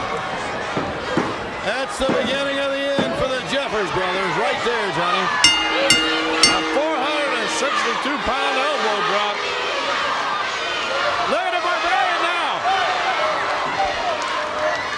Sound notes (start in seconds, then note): 5.4 bell ringing; 8.6 crowd cheering